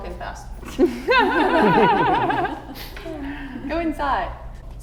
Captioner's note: all laughing